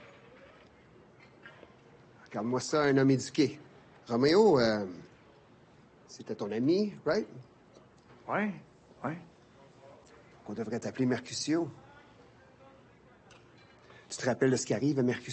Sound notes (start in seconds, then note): 1.8 LaFleur speaking in French; 7.8 thug speaking French; 10.0 LaFleur speaking in French